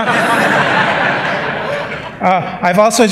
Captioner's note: laughter